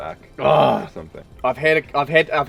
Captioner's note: groans